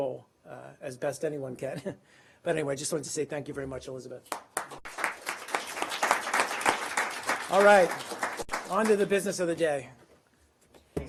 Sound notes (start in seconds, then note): 4.3 applause